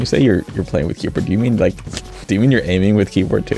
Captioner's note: chortles slightly